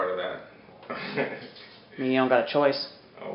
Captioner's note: laughs